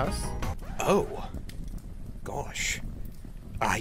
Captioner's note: record scratch